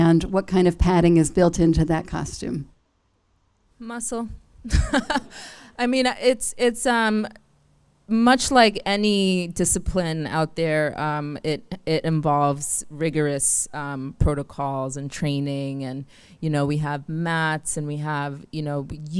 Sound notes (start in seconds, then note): 4.7 laughs; 4.8 audience laughs